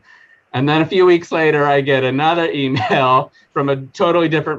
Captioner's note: chuckling